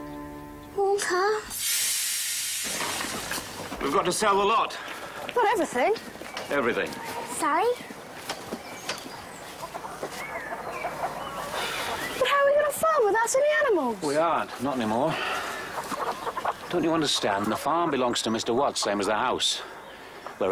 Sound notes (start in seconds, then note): 1.9 magical shimmering